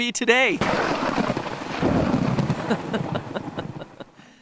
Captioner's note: thunder and lightning crackling